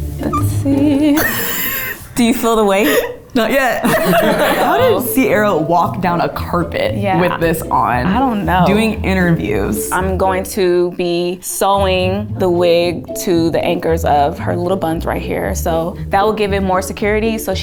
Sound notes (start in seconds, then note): 2.6 laughs; 2.6 laughs in background